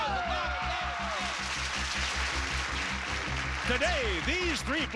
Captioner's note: audience applauding